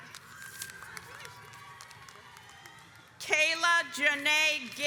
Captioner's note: audience applauds